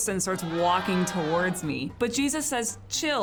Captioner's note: people shouting